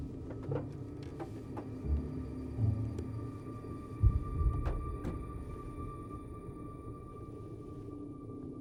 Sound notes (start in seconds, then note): 0.2 car door opens; 4.7 car door closes